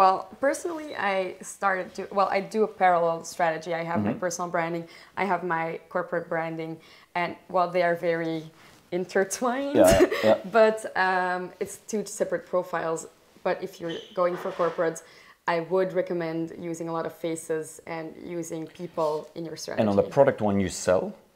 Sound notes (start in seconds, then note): 9.7 laughing